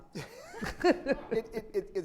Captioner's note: all laugh